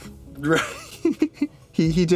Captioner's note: laughs